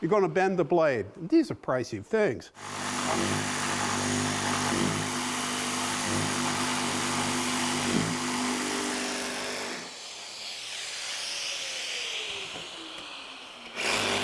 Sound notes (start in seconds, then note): 2.5 saw whirring